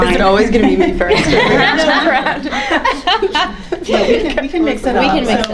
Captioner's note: everyone laughing